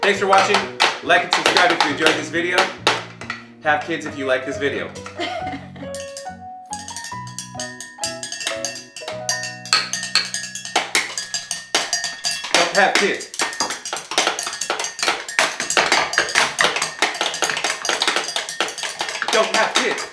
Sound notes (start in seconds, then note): 5.1 laughing; 6.6 light, bouncy music